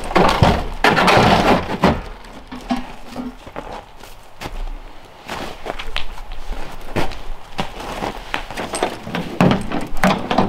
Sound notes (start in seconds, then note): 0.0 footsteps crunching; 0.0 sled thudding; 3.9 footsteps crunching